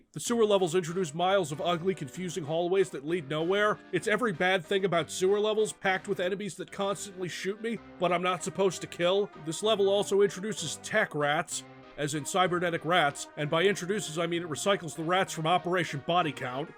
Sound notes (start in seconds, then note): none